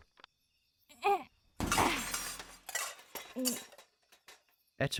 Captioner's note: etta groans; automaton falls onto metal